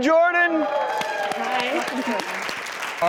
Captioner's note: applause